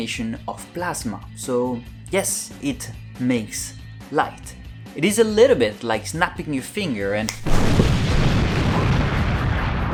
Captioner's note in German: Explosion